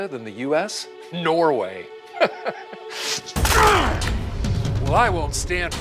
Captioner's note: angry grunt